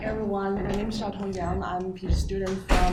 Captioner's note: floor creaking; door slamming